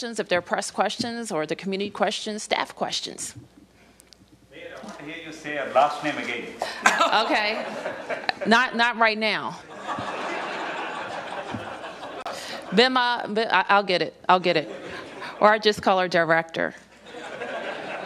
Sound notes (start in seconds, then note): 11.5 laughter